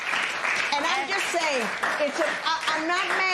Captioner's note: applause